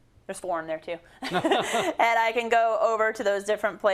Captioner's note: laugh